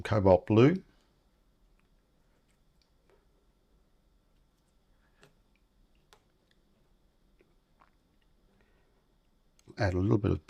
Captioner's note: silence